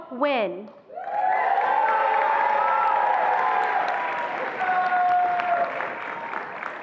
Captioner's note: attendees applauding and cheering